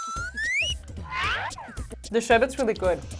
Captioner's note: whistling; wacky noise